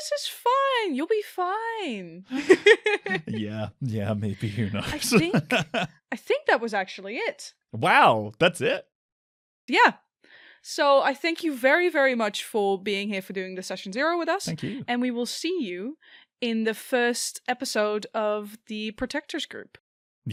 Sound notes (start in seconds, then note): 2.3 laughs